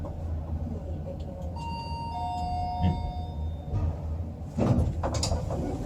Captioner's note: chime